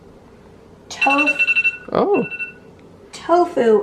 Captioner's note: phone alarm goes off